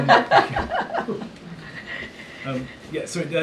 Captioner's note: laughter